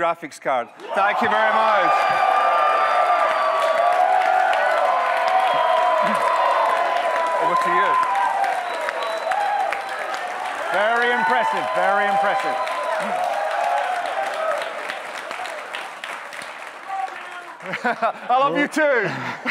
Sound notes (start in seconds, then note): 3.2 audience cheers; 11.5 audience cheering; 14.1 laughs